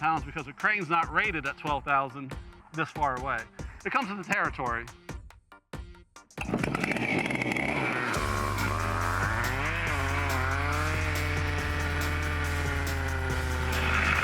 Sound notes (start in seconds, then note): 6.5 chainsaw rattling; 8.4 chainsaw humming